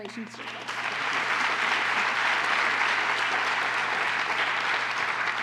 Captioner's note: applause